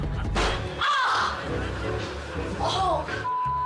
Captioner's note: upbeat music; audience laughing; foot crashing; gasping; beep